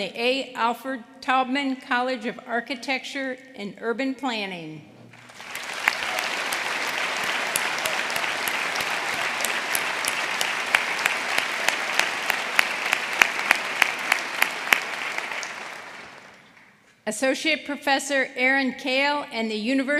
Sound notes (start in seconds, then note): 3.2 applause